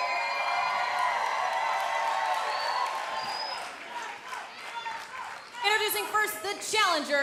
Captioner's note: applause